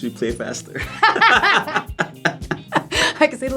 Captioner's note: laugh